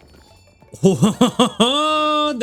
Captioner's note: laughs